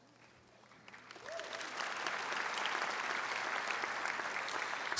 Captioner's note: audience applauds